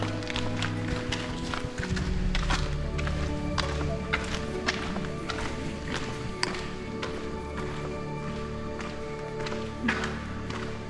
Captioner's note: footsteps echoing